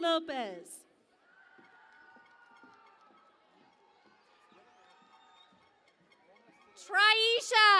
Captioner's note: cheering and Applause